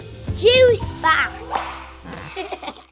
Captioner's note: kid laughs